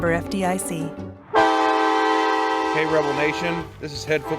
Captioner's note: horn blaring